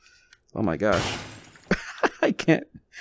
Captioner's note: crash sound